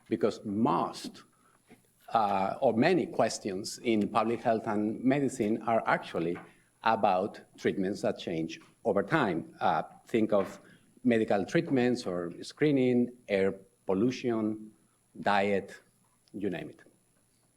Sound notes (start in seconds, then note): none